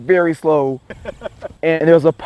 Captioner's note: laughter